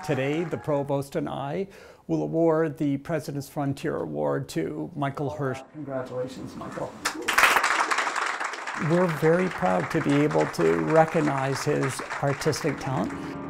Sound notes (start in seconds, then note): 7.0 applause